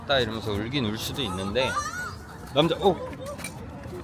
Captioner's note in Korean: 옆에서 들리는 비명